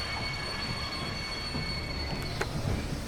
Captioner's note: loud metallic scraping sound